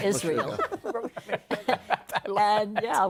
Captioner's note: laughter